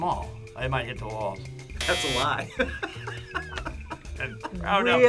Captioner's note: laughs